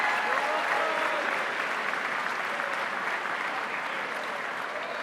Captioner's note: audience clapping; audience cheering